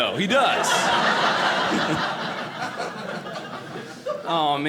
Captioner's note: audience laughing